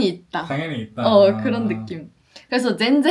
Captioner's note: laughs